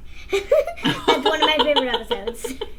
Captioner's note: laughs